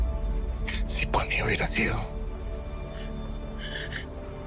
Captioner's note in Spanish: Sollozos